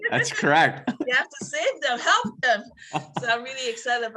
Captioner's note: laughs